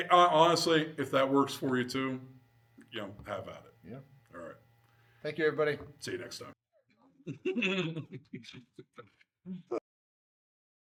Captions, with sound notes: Honestly, if that works for you too, have at it. All right. Thank you everybody. See you next time. (laughing)